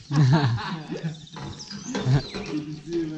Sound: laughs

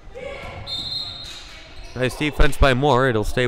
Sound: whistle blowing

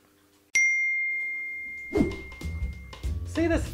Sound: phone chimes

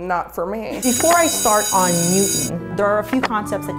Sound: bell ringing

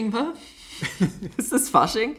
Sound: laughs

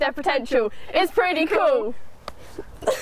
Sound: giggling

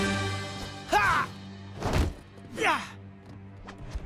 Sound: grunting

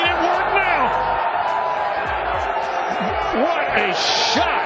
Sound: crowd cheering

